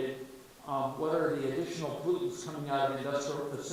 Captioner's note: faintly speaking